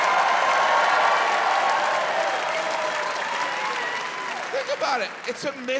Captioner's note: audience cheering, applauding